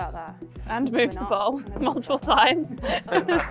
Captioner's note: laughter